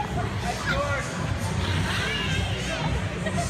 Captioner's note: uncontrolled laughter